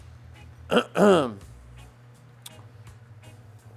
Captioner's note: clears throat